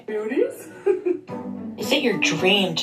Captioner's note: giggling